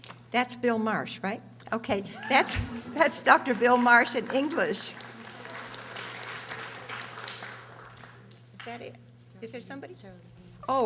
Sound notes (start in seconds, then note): 4.9 audience applauding